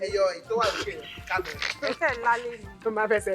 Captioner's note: laughs